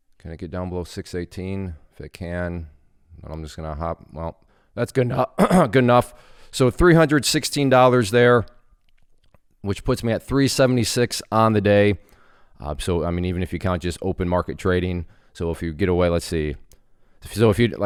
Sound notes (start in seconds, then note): 5.3 coughing loudly